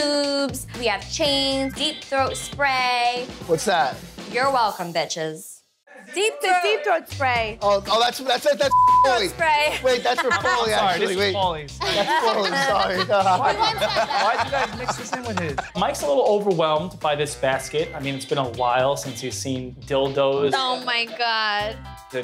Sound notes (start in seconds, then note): 8.7 beep; 11.8 all laughing